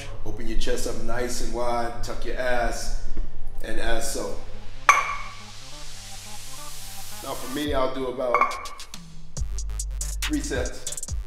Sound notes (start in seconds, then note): 4.9 weights clinking